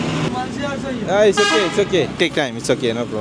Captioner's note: speaking Nepali